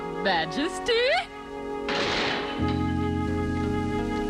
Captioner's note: door shuts